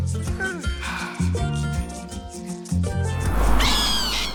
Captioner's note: sighs happily; screams